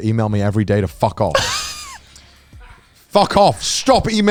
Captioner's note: laughs